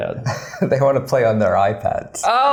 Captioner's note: laughs